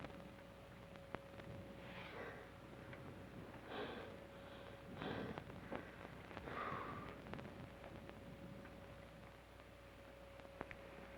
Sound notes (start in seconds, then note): 1.7 Trask breathes heavily